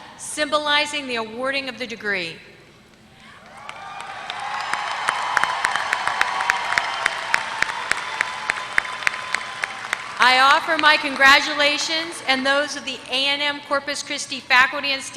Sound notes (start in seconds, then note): 3.4 applause